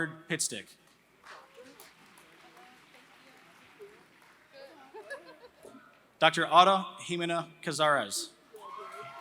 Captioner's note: applause; laughter; applause